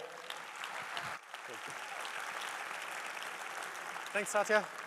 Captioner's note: applause